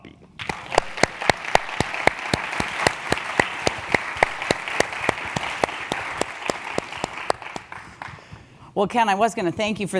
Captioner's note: applause